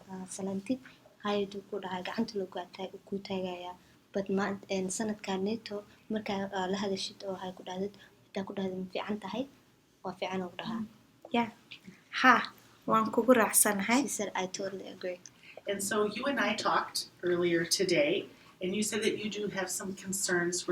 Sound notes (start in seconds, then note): 12.3 speaks in Somali